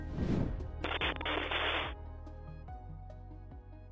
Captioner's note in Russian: Звук заставки: помехи